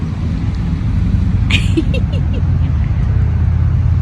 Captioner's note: giggles